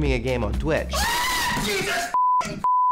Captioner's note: screams